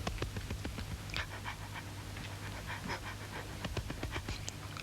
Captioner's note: dog panting